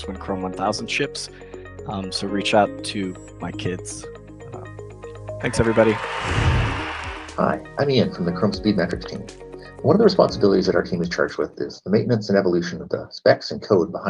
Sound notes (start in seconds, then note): 5.9 cheering